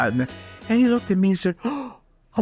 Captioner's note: gasp